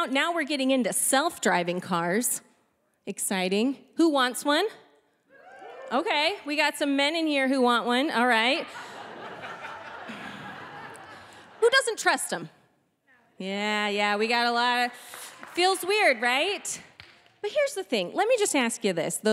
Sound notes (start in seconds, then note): 5.9 audience members exclaiming; 8.4 audience members laughing